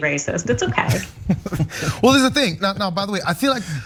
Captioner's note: laugh